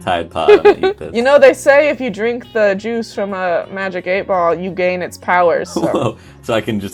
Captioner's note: laughs